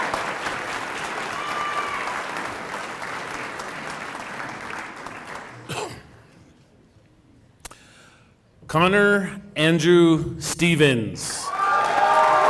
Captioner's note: cheering and applause